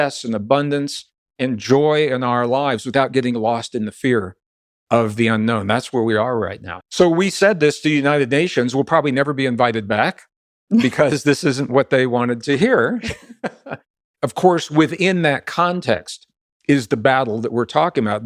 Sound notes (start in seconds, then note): 10.3 laughs; 12.5 Gregg laughs